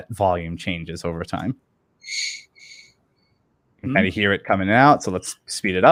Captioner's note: high pitch squeak echoes